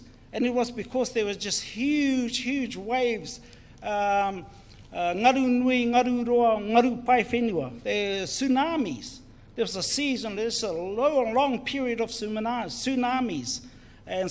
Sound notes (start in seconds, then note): 0.0 speaks in foreign language; 3.9 speaks in foreign language; 9.3 speaks in foreign language